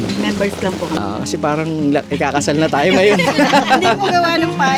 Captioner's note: laughs